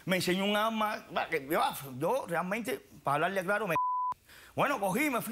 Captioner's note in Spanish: Bip